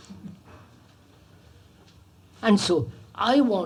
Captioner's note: laughter